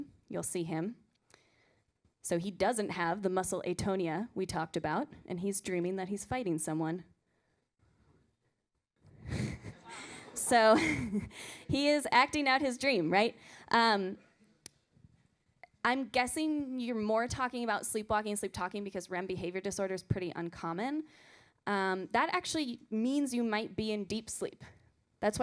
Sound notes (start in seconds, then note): 9.3 student laughter